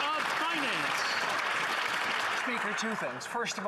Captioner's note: some Applause